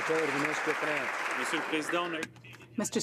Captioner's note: some Applause